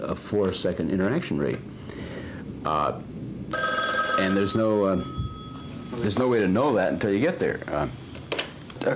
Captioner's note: phone rings